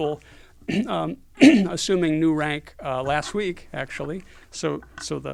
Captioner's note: cough